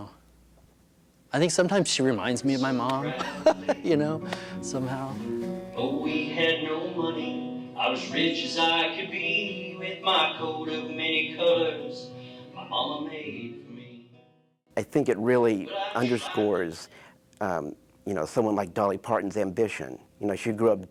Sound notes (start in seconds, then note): 3.0 laughs